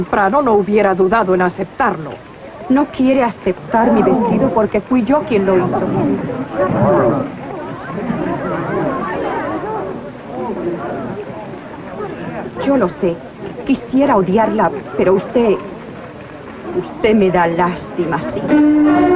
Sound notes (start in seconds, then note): 5.6 crowd murmuring